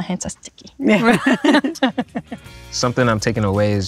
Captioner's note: group laughing